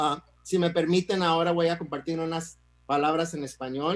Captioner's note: speaks in Spanish